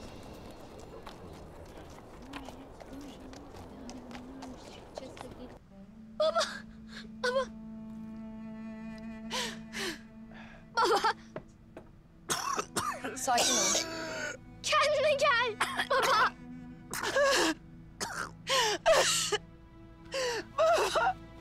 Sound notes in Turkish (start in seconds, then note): 9.1 Ağlama sesi; 12.2 Öksürme sesi; 18.0 Öksürme sesi; 18.8 Ağlama sesi